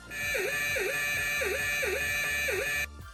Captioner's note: whirring